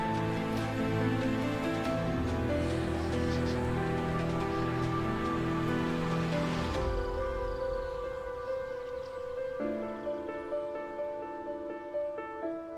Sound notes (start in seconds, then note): 9.3 subtle bird sounds